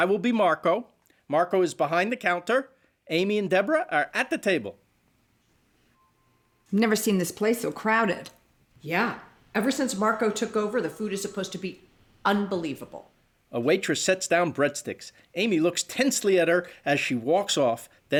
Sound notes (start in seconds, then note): none